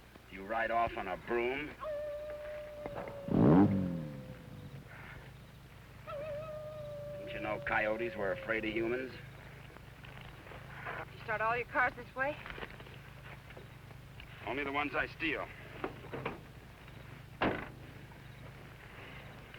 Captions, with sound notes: - Do you ride off on a broom? (coyote howling) (engine rumbling) Don't you know coyotes were afraid of humans? - Start all your cars this way? - Only the ones I steal.